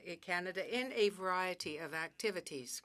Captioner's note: speaking French